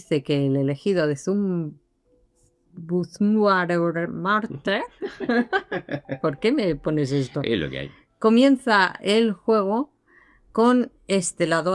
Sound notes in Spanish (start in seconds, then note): 5.0 risas